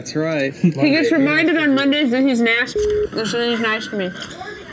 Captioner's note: beep